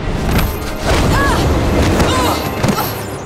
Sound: grunting

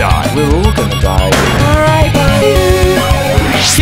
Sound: gunshot

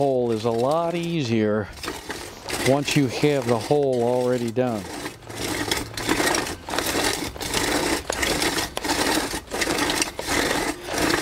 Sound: sound of scraping gravel

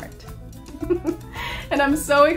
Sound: laughter

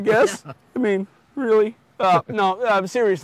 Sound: host laughing

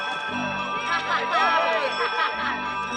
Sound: laughing

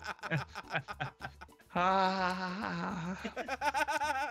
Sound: laugh

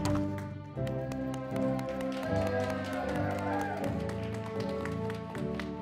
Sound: audience applauding

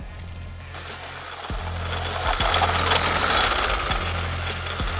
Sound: vacuum bumping

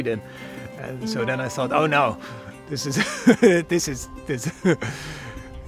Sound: laughing

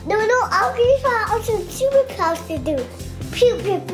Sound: babbles excitedly

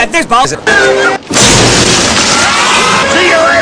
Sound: distinctive "Mario looking to the side" sound; smash! roar!; scream

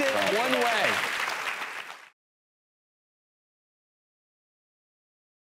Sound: audience applauding

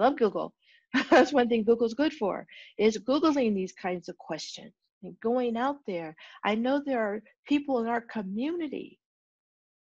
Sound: laughter

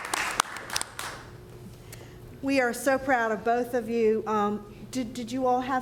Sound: applause

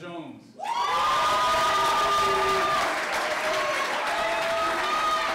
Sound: clapping

